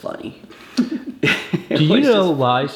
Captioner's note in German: beide lachen